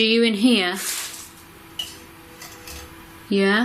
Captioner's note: squeaking